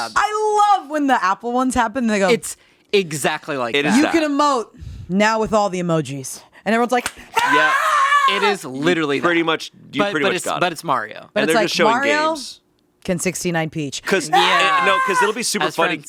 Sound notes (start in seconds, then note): 7.3 clapping and cheering; 14.2 cheering